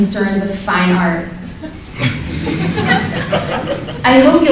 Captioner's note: laughter